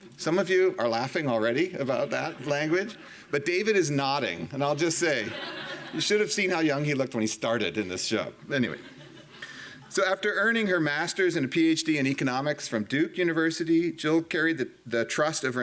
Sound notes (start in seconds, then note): 4.7 audience laughing